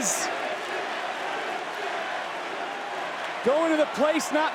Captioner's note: crowd chanting